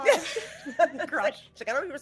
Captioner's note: laughing